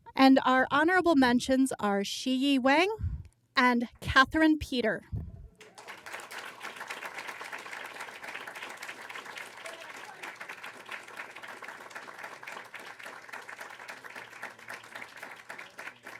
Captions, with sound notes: And our honorable mentions are Shiyi Wang and Katherin Peter. (applause)